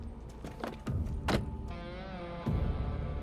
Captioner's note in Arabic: يغلق الباب; موسيقى متوترة